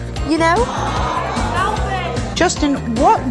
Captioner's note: audience booing